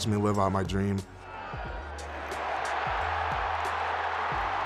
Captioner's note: crowd cheering